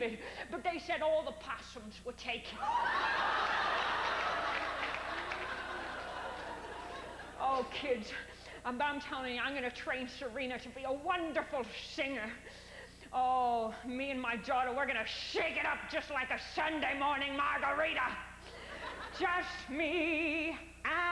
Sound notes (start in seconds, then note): 2.6 howling laughter